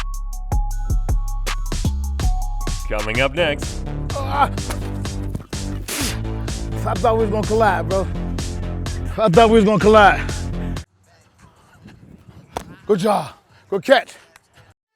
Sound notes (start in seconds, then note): 4.2 spits